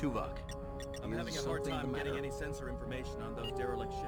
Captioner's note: beeping